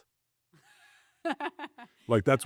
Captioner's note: laughs